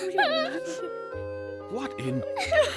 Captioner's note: crying